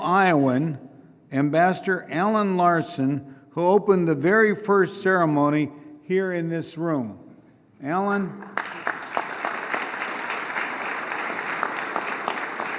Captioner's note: applause